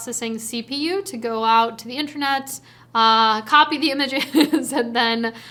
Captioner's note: chuckles